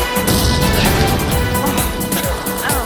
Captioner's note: gunfire; grunting and coughing